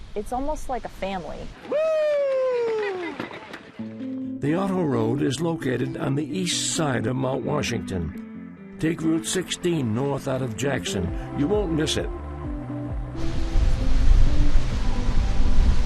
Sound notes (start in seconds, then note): 1.6 competitor cheering; 4.1 soft music; 12.1 upbeat music